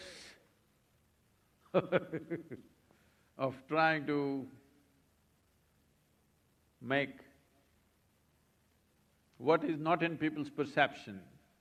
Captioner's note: laughs